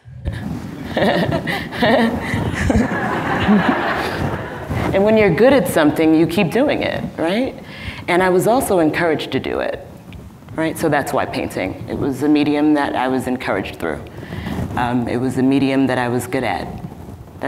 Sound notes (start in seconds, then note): 0.8 laughing; 3.1 audience laughing